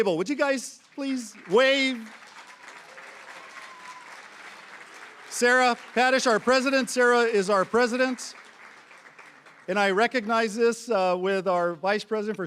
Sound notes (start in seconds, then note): 3.4 applause